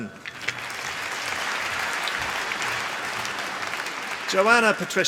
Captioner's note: applause